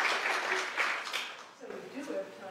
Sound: applause

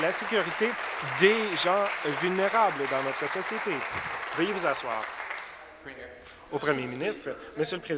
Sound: applause

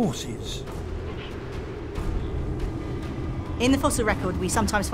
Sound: wind blowing

